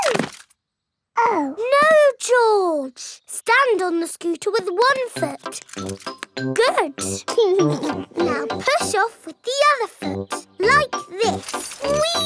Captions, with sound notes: -Oh. -No, George! Stand on the scooter with one foot. -Good! -(CHUCKLES) Now push off with the other foot, like this!